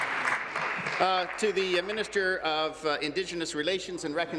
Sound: applause

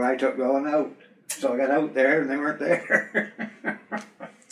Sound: laughs

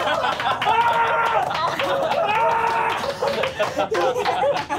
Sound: cheering; clapping; screaming

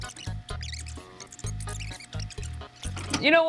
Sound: fast forwarding sound effect

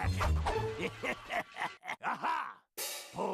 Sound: laughing maliciously

